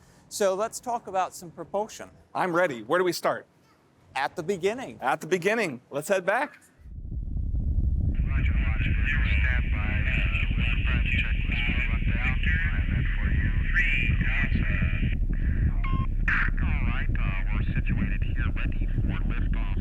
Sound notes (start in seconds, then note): 7.8 rocket command talking to astronauts